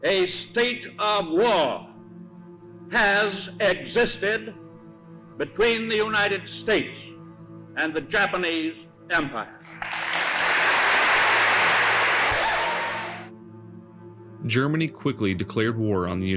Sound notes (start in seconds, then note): 9.6 audience applauds